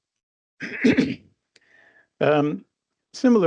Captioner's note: clears throat